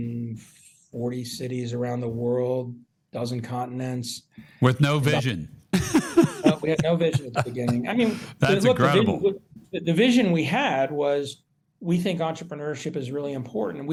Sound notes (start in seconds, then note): 5.7 laughs